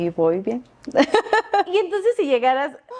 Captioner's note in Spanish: Risas